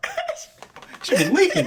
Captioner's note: laughing